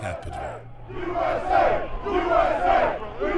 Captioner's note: crowd